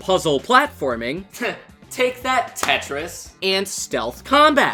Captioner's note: scoffs